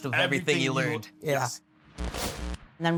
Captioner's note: static buzzing